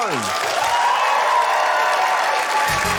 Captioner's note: cheering, applause